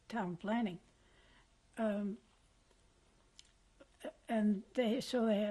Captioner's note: pauses for 3 seconds